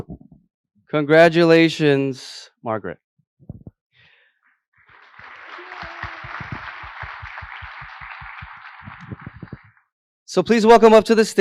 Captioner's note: applause